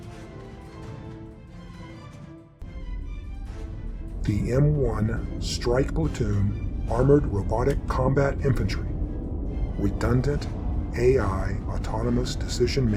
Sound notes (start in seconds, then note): none